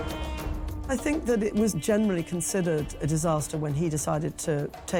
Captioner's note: Welsh